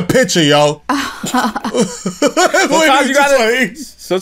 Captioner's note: laughter